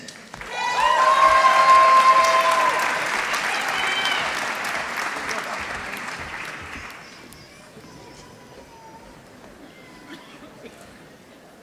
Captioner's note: applause